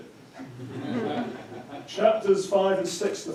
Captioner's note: audience chuckling